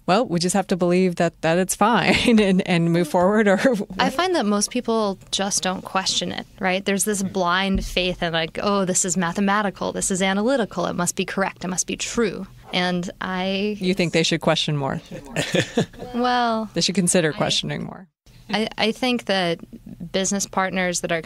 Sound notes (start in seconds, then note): 15.1 laughs